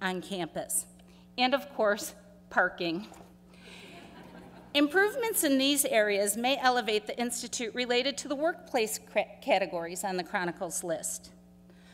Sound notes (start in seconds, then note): 5.5 laughter